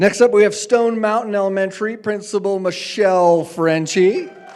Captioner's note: applause